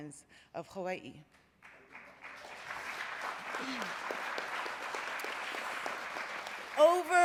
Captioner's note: applause